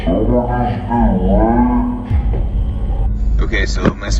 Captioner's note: slow motion voice